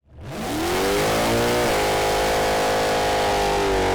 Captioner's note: engine revving